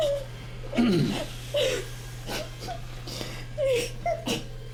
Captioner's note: Murray clears throat